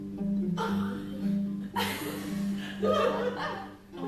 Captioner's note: laughter